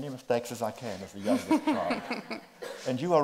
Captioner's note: group laughs